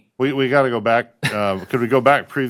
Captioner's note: laughter